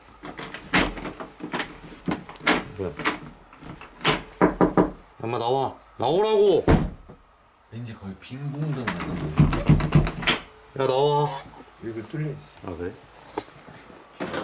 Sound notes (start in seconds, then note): 0.2 the sound of turning the doorknob; 3.6 knocking; 7.1 bang!